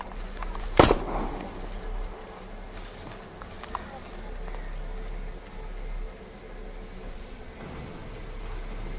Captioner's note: forest atmosphere & gunshot noises